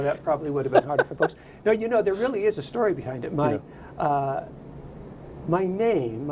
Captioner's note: laughter